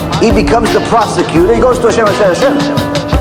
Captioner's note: hebrew